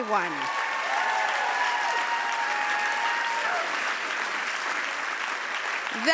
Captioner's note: clapping